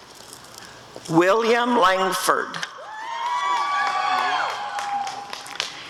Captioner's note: applause and cheering